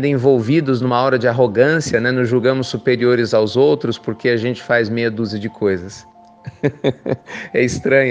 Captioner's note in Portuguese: risos